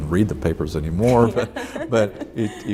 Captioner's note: laughs